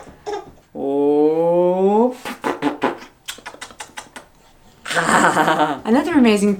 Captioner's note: smooches; laughs